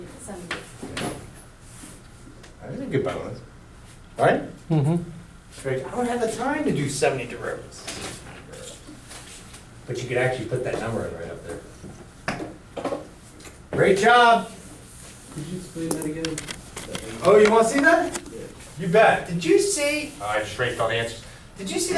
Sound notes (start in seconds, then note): 16.3 voiceover